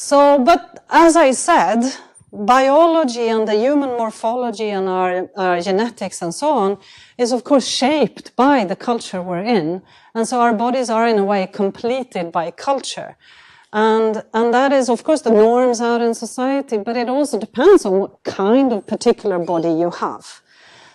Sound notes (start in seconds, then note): none